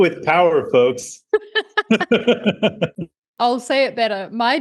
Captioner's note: both laughing